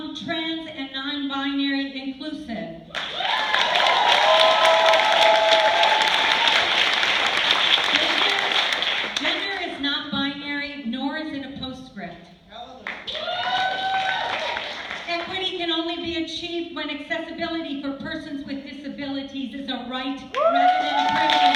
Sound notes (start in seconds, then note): 2.9 cheers, applause; 13.0 cheers